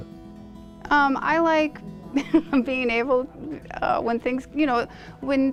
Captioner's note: chuckles